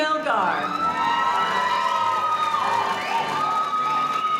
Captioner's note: cheering and applause; audience cheering